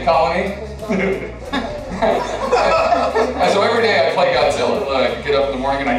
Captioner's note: laughter